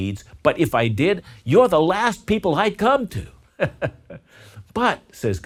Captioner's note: laughs